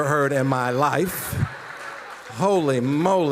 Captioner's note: audience laughing